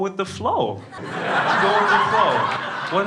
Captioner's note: crowd laughing